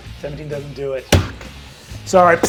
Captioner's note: slams hand